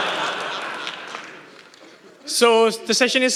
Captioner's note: laughter